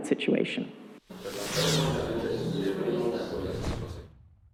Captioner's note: whoosh whoosh